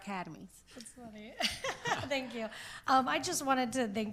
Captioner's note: laughs